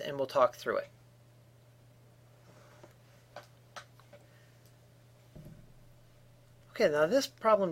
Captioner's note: no sound